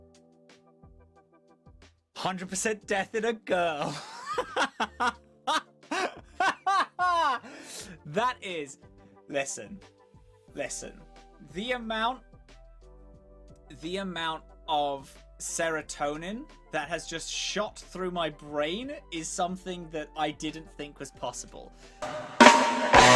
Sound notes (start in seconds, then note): 3.8 laughter